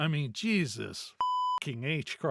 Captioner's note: beep